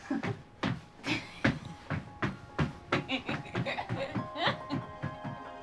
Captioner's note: giggling